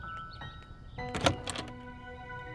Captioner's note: Door opens